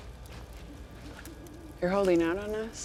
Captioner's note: owl hoots